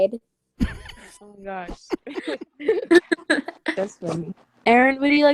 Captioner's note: laughter